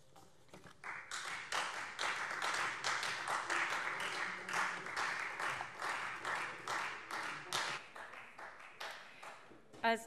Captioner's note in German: Beifall Freie Demokraten